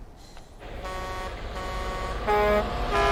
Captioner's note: horns honking